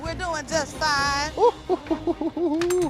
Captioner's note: laughing